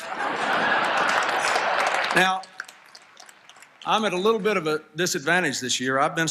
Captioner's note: applause, Laughter